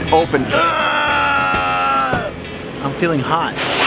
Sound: screaming in Spanish

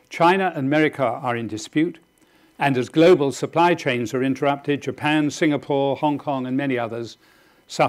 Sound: none

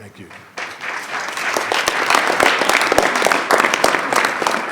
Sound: attendees clapping

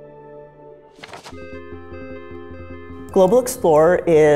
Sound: paper shuffling

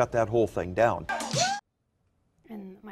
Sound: man whoops

